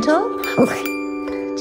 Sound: dog bark

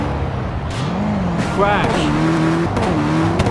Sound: crash

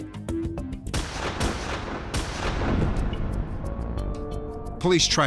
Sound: gunfire ringing

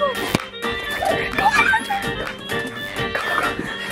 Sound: squealing

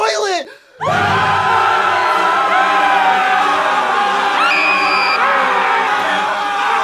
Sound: all screaming in terror

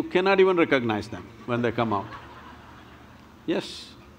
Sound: laughter

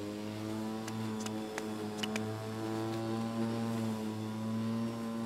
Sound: footsteps clacking

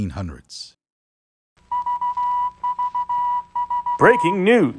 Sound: beeps

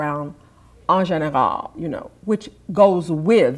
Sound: speaks in foreign language

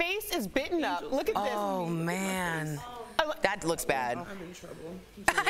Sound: laughter

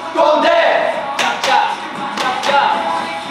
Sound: clap clap

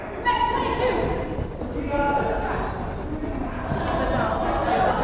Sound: crowd chattering

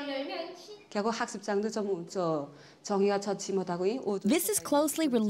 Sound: speaks foreign language

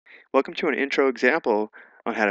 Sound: voiceover

